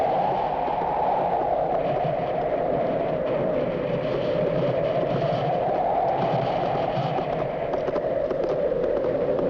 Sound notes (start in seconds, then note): 4.5 hooves clattering